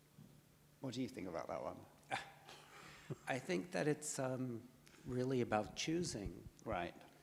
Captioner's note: scoffs